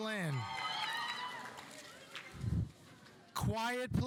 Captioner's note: audience cheering